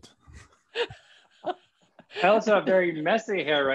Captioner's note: laughter